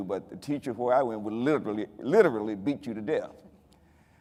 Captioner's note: none